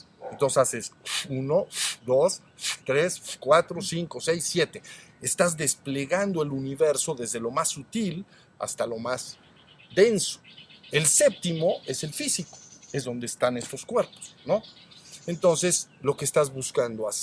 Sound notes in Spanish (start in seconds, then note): 1.0 resoplido